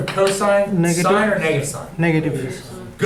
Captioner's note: voiceover